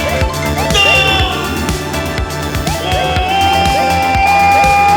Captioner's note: Martin yelling